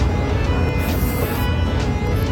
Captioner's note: slurp!